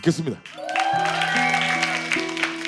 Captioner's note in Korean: 짝짝 x 6